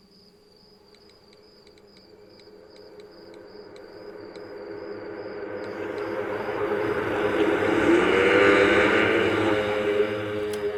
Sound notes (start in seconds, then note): 2.6 phone clicking; 7.2 loud, ethereal moaning